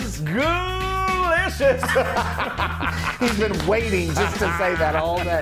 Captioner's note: laugh